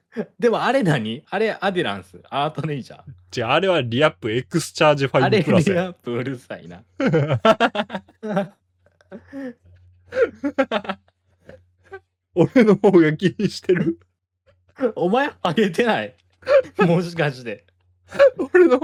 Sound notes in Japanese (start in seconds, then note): 6.9 笑い; 16.4 笑い